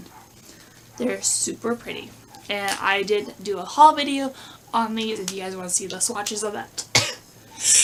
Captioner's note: sneeze